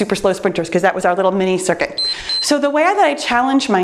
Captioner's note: timer beeps